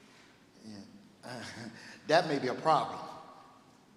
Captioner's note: laughs